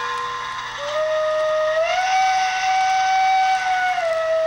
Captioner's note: train whistling